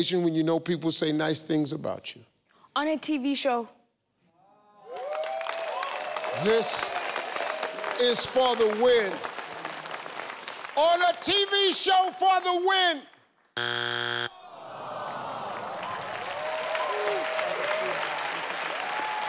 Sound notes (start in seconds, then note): 4.8 audience cheering; 13.6 buzzer rings; 14.7 audience applauding